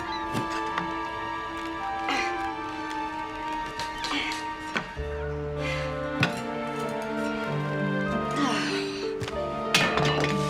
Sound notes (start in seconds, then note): 8.2 sighs